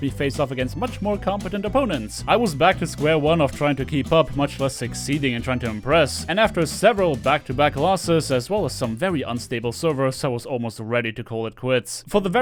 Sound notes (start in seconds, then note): none